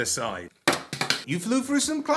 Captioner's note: thunk